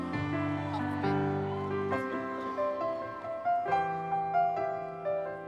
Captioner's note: audience members cheering